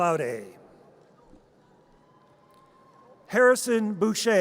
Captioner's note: audience cheers